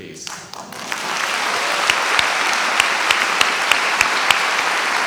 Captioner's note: audience applauding